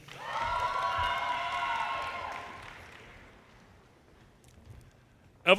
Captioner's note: audience cheers and applause